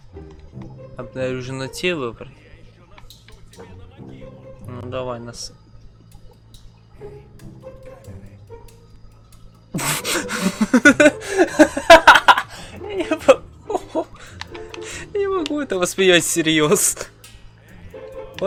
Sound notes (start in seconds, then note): 9.7 laughs